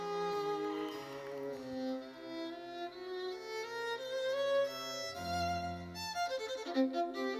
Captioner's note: lively classical music continues; audience cheering; audience applauding